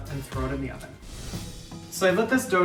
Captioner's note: upbeat music; scene whooshing